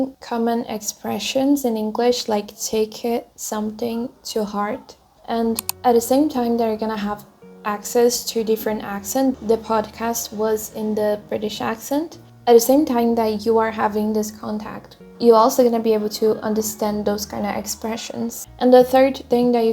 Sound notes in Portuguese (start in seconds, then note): 9.6 o podcast estava com sotaque britânico